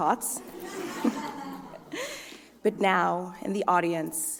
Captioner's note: laughter